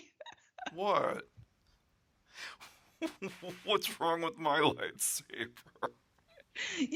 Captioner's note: laughs